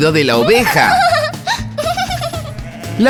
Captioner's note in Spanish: Risas